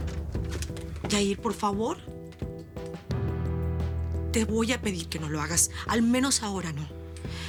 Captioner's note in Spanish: Ruido al cerrar la puerta